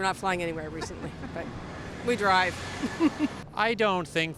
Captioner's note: laughs